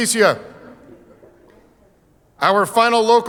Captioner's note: audience laughing